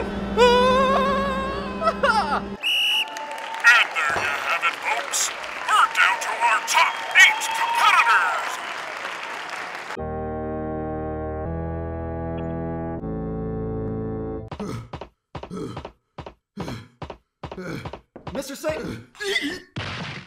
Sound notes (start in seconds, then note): 0.3 CONTESTANT #4 screams; 1.3 KRILLIN chuckles; 2.6 whistle blow; 14.4 MR. SATAN panting; 19.2 MR. SATAN shrieks